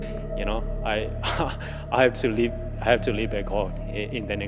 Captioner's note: chuckles